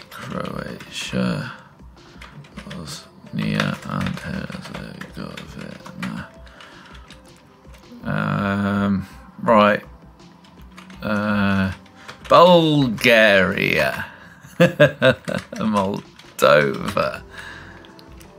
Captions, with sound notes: Croatia, Bosnia and Herzegovina. (groans) Right. Bulgaria. (laughs) Moldova.